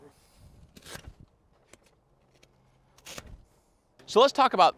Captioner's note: knife slicing